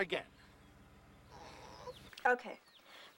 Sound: sobbing

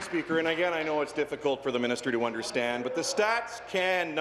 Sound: applause

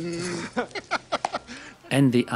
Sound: laughing

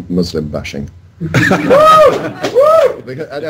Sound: crowd: Woo! LOL!

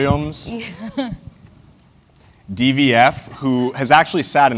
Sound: laugh

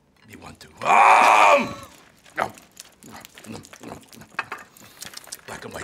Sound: munching furiously

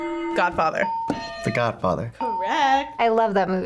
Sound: bell rings

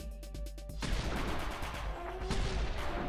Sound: gun firing

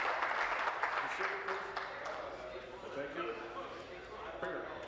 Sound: applause

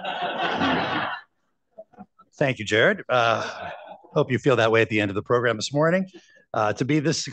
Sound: laughter

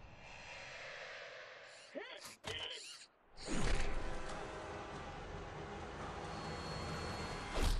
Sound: laughs

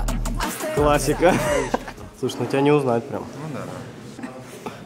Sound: laughs

